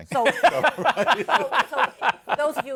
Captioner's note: laughter